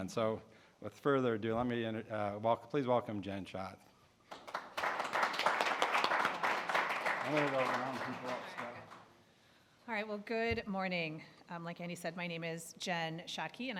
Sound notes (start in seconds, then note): 4.2 applause